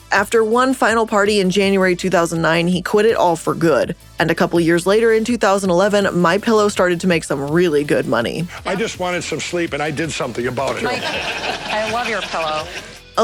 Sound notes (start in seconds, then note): 10.2 audience laughing